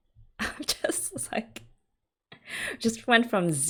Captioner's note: laughs